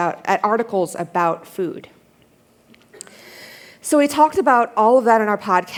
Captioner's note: none